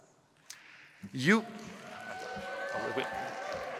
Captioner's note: cheering